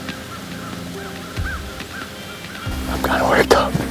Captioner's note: wild bird calls